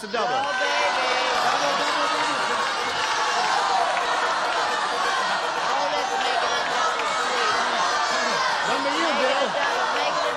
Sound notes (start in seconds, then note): 2.7 shouting